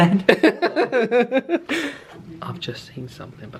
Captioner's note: laughs